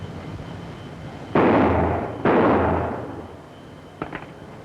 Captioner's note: gun shots